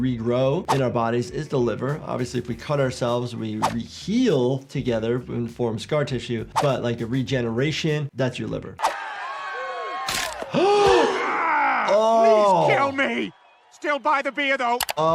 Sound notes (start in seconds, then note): 8.8 crowd cheers; 10.8 doctor gasps